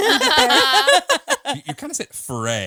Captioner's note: all laughing